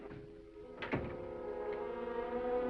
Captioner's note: gentle music; door latches